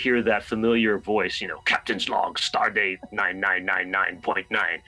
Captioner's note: imitating the voice